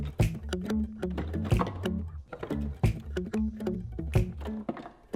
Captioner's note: rhythmic pop music; objects clinking